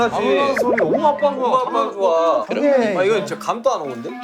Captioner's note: Lẩm nhẩm